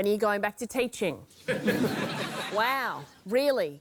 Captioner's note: laughter